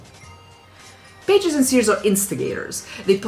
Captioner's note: none